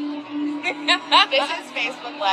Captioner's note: laughghs